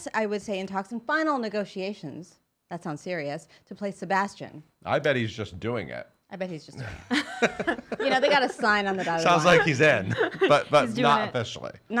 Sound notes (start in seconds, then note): 6.8 laughing